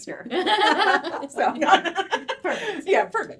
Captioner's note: laughing heartily